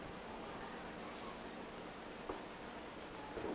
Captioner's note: none